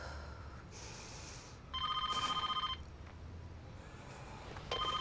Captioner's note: phone rings